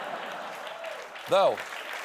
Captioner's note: laughter; applause